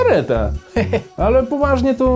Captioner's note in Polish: Śmiech Antka